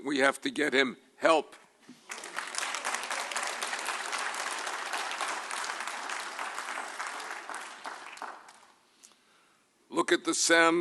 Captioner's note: applause